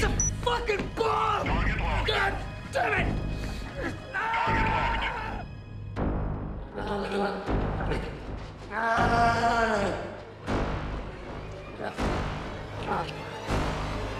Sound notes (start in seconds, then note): 4.4 Bill shouting; 5.8 suspenseful music